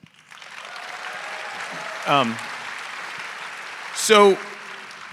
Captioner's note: audience applauding; audience cheering